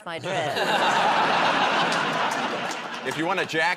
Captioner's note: laughter